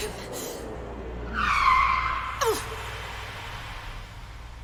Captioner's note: brakes screech